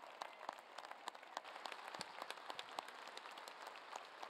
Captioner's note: applause